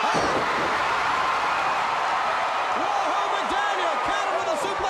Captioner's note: crowd cheering